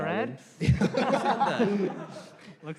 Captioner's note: laughter